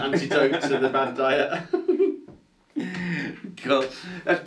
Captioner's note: laughs